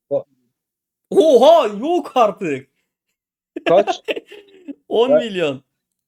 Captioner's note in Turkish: kahkaha